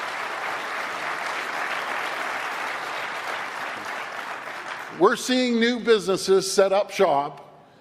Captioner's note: applause